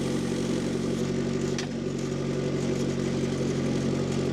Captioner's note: engine rumbling